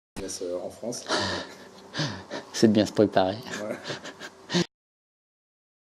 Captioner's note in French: rires